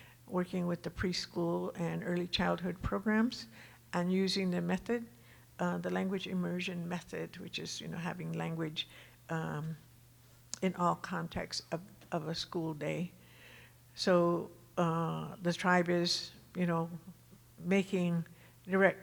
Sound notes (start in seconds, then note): none